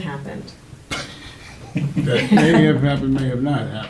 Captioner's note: laughs